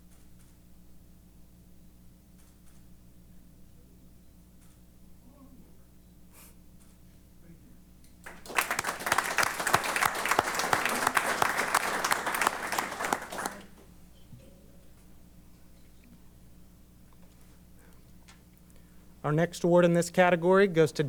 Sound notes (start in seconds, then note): 8.2 applause